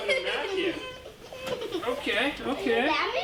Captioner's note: baby crying